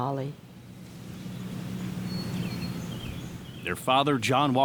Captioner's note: birds chirping